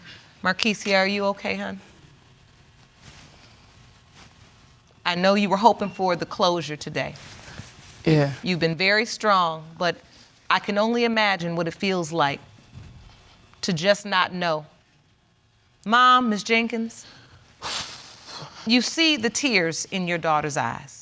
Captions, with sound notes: Markeysia, are you okay, hon? I know you were hoping for the closure today. Yeah. You've been very strong, but I can only imagine what it feels like. To just not know. Mom, Ms. Jenkins. (EXHALING DEEPLY) You see the tears in your daughter's eyes.